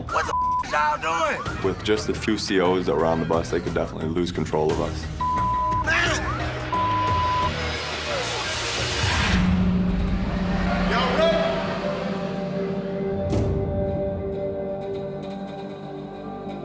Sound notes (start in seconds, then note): 5.8 boisterous shouting; 13.2 dramatic music playing